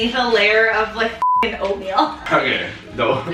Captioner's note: beep